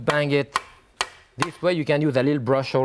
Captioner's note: grater thuds